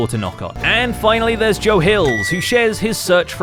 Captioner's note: microwave beeps